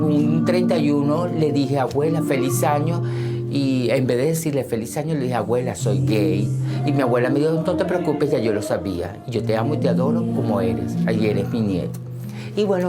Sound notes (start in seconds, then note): none